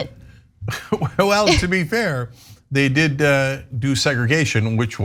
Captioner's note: laugh